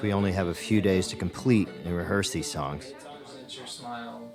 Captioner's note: murmuring